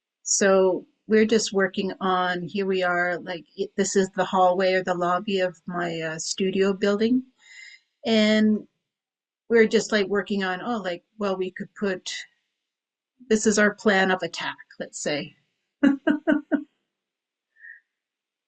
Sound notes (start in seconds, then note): 15.8 chuckles